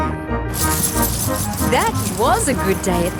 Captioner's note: coins jingling